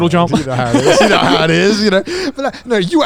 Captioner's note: laughing